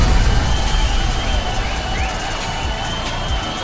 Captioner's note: audience cheering